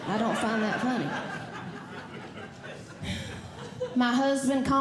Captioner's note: audience Laughing